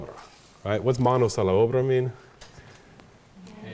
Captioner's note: speaks Spanish